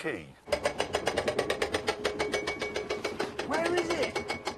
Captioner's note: ratchetting